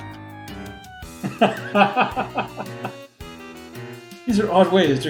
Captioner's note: laughs